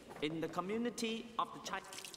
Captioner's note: water Running